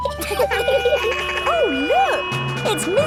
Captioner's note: barks; laughing; sirens sounding